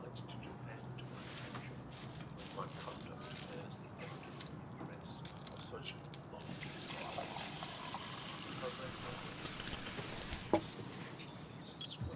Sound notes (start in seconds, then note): 8.8 water splashing